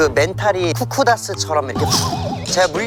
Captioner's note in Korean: 바사삭